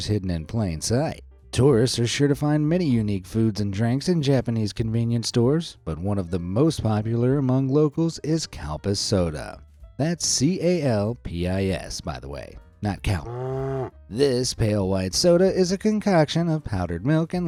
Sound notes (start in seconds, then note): 13.1 cow mooing